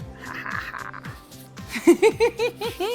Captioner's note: laughs